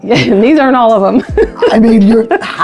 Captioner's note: laughs